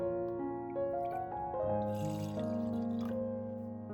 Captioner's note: water